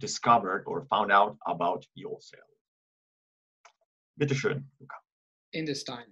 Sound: in German

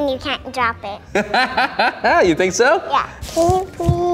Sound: laughs

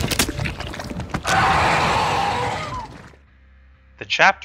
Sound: round creature roaring

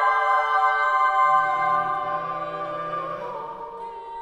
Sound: lower Voices

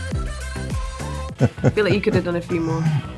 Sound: upbeat music; laughing

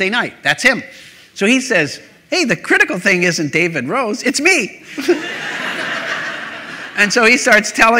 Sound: laughter

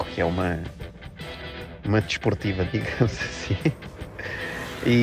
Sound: laughs

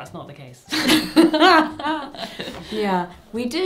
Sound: both laughing

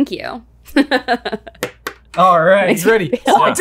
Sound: giggling

